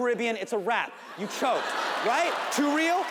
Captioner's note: audience laughs